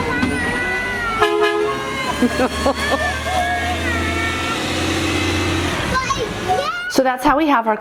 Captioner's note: garbage truck honks twice